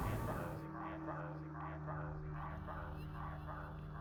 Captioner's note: radio echos